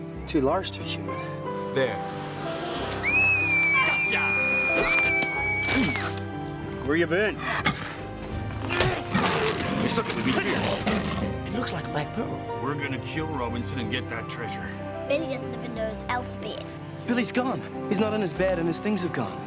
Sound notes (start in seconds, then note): 3.1 shriek; 4.6 screaming; 8.7 growling